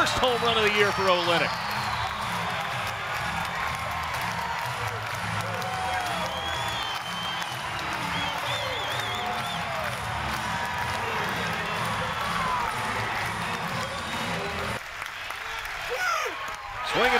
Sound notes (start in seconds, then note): 1.8 crowd cheering and clapping